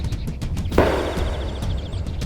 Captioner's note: gunshot